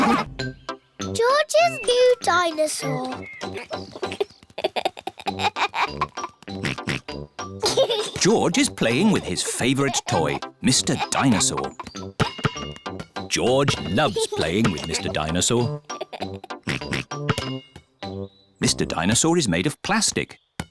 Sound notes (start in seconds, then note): 3.4 giggles; 6.6 oinks; 15.6 laughs and oinks